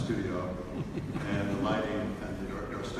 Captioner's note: audience laughs